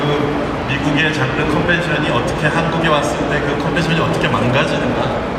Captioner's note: speaking Korean